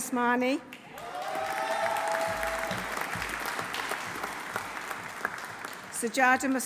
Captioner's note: audience applauding; audience cheering